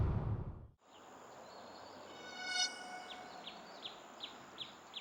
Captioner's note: birds chirping